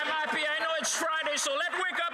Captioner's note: applause